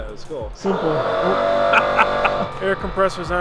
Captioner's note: air compressor whirring